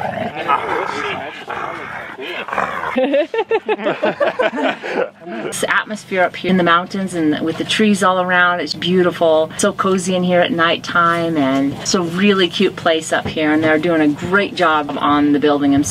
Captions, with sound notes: [laughter] the atmosphere up here in the mountains and with the trees all around it's beautiful so cozy in here at nighttime and it's a really cute place up here and they're doing a great job on the building